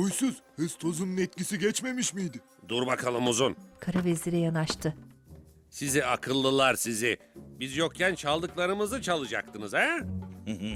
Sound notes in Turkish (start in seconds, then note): 4.6 Ayak sesleri